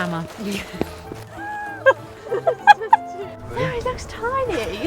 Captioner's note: laughs